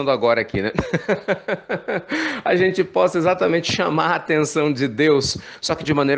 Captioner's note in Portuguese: risos